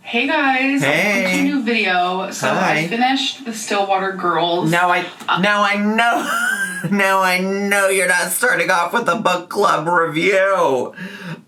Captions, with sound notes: - Hey, guys. - Hey! - Welcome to a new video. - Hi. - So I finished "The Stillwater Girls". - Now, I know, (laughs) now, I know you're not starting off with a book club review.